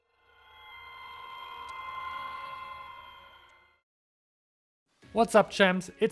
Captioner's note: distorted ringing